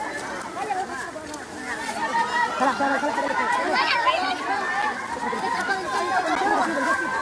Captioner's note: laugh